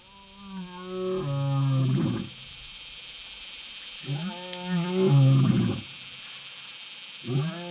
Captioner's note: lion roar